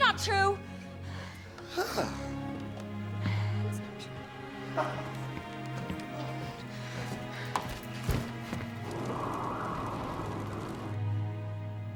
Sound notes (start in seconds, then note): 2.5 grunts; 3.4 gentle music; 6.0 footsteps receding; 8.6 wind howling